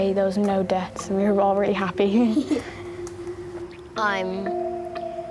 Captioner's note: laughs